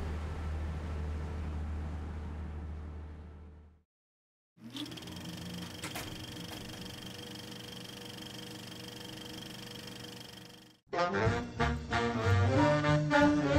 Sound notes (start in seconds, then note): 4.6 film reel rolling; 10.9 jazz music